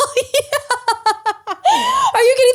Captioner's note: laughing